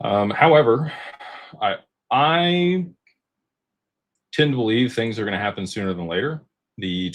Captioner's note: sighs and gasps